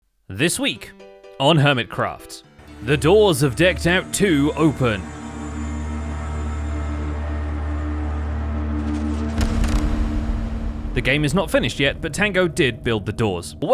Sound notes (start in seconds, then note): 6.8 ominous noises; 9.2 door opens